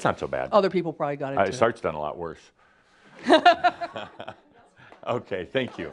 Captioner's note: she chuckles